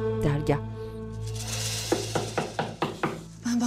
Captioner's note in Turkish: Kapı vurulma sesi